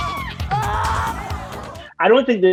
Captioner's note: Aimee screams; Dex screams